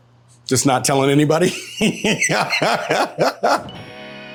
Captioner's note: laughs